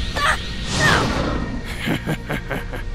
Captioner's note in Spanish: Risas